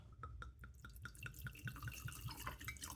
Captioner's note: glug of liquid